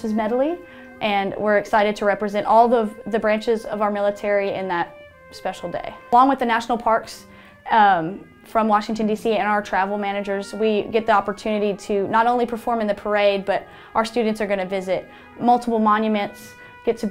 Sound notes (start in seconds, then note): none